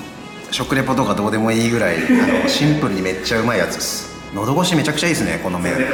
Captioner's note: laughs